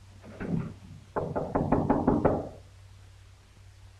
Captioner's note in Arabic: يطرق